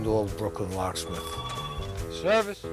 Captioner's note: phone ringing